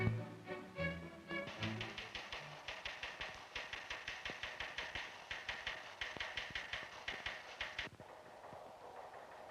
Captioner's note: typing noises